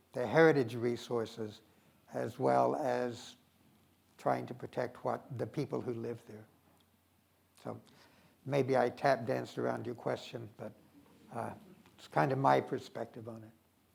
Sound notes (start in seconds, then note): none